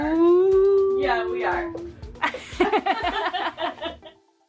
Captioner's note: laughing; soft upbeat music